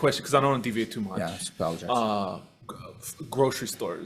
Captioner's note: faintly speaking